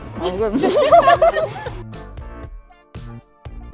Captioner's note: laughing